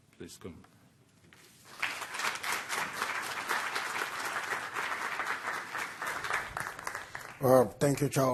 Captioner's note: applause